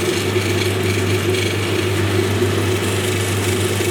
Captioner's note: machine whirring